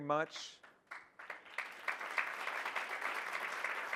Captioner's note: audience applauds